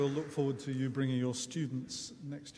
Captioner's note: audience applauding